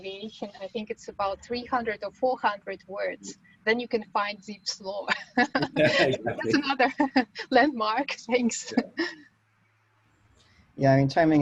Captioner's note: chuckles